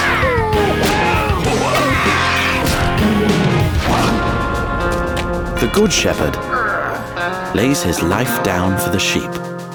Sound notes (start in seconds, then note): 0.0 thief screams; 0.0 wolf whines; 0.6 vulture squawks; 3.0 lion roars